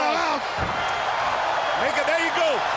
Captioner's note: crowd cheering